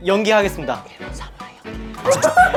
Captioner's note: whispers